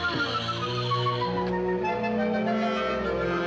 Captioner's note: sighing